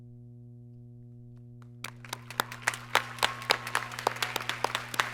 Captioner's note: applause